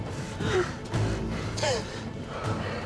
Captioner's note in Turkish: Nefes sesi